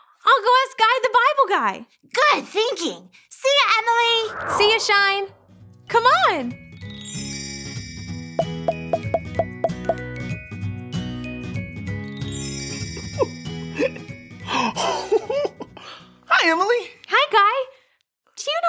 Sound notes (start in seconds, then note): 6.7 cheerful music; 8.4 plopping; 14.5 laughing